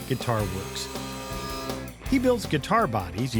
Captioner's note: saw buzzing